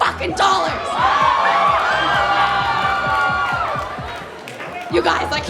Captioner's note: cheering